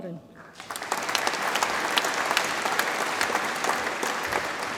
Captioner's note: audience applauds